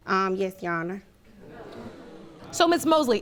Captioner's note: audience exclaiming disapprovingly